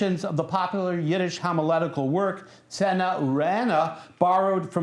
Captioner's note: non-english speech